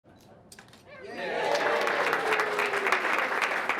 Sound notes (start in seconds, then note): 1.0 cheering, applause